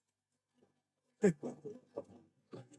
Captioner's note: laughing